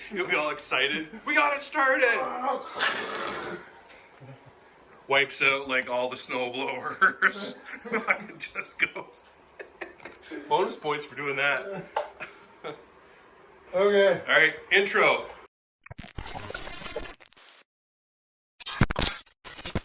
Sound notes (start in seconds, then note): 2.5 imitates scraping noise; 9.3 laughing; 16.0 electronic sounds